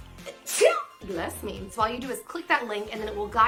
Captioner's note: sneezes